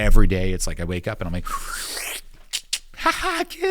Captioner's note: inhaling, making clicking sound